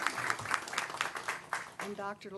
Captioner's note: applause